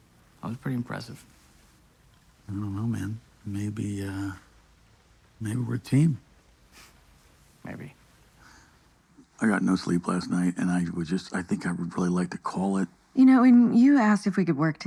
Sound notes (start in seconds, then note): 6.9 scoffs